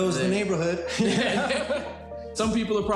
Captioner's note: both laugh